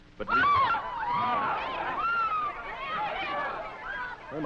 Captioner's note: women screaming backstage